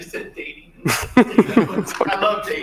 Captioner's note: presenters chuckling